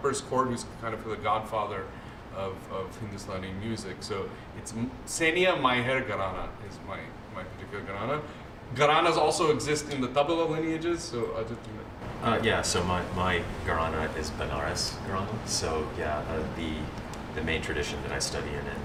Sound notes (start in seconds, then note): 4.6 non-english speech; 7.6 non-english; 13.5 non-english